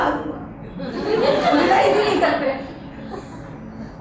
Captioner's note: audience laughs